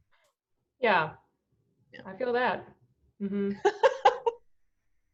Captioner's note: laughs